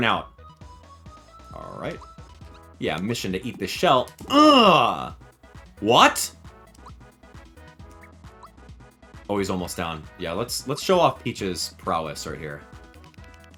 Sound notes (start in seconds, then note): 4.2 grunts